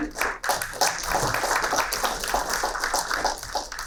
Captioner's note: applauding